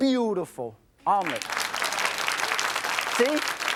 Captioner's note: audience claps